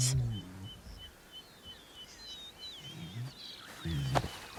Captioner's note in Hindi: चिड़िया चहचहाते हैं